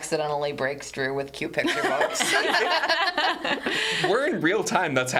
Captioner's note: all laughing